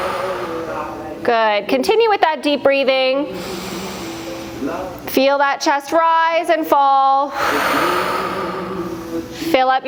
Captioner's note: breath